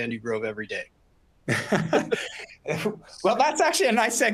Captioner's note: laughter